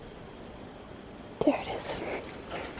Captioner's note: whispers